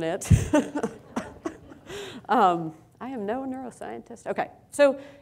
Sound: laughs

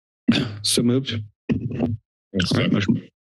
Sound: thud

